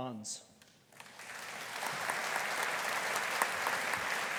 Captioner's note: audience applauding